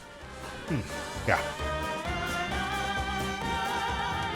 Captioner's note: grunting